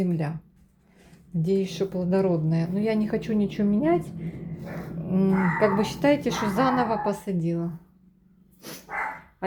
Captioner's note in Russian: фыркает